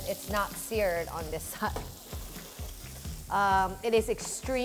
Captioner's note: sizzling